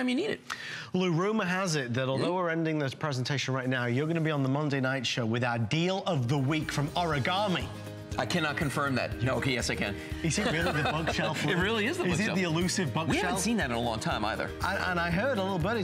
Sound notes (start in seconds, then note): 10.3 laughter